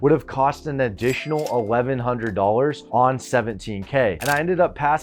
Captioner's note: cash register dings